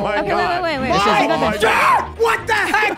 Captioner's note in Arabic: صراخ شريحة لحم